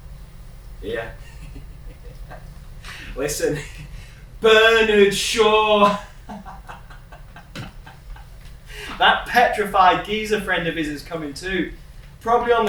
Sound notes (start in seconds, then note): 1.2 laughs; 5.5 laughs